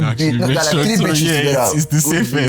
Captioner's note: laughs